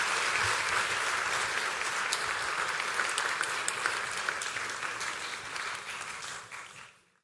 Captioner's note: applause